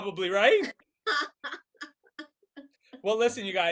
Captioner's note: laughing